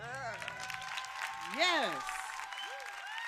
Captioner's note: crowd cheers